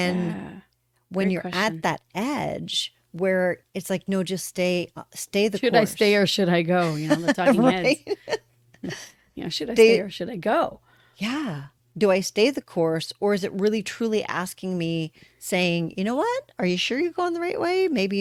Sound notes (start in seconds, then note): 10.9 laughter